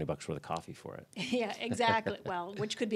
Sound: laughs

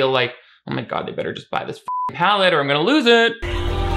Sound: beep

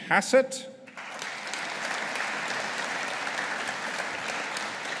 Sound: audience applauding

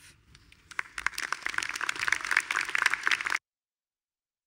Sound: attendees applauding

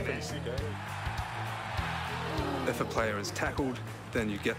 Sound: applause

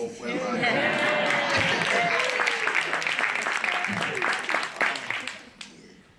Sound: laugh; applause

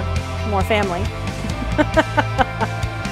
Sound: laughing

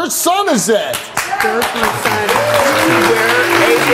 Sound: audience applause

